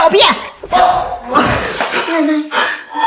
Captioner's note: scoffs